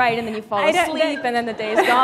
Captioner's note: laughter